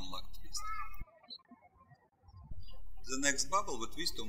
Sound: birds chirping

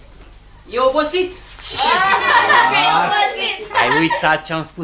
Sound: children laugh

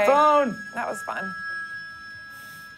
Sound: ring

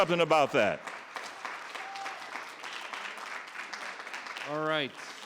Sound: audience clapping

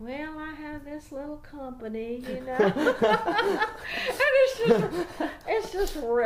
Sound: mock sheepishness; laughs loudly

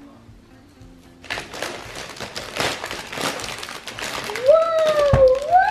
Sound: paper ripping

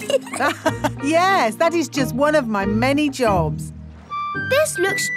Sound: laughs

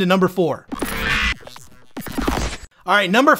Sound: electricity squawking

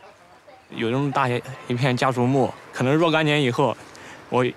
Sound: speaking Chinese

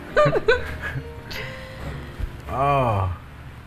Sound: people laughing

